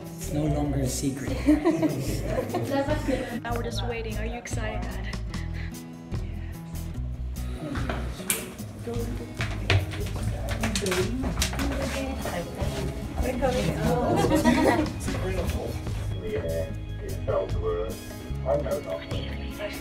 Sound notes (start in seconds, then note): 1.3 laughs; 6.3 whispers